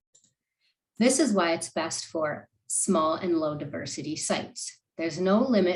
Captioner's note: click